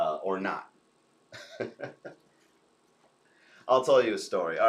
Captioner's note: chuckles